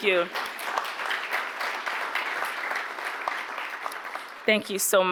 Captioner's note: audience applauding